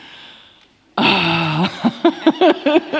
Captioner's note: laughter